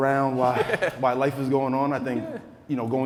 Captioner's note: other speaker chuckling